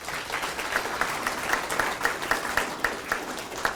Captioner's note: attendees clapping